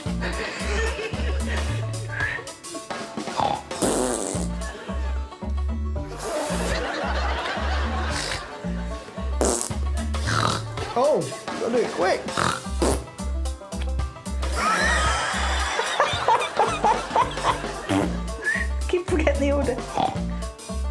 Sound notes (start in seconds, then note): 0.2 laughs; 10.0 snorts; 12.3 blowing a raspberry; 14.5 laughs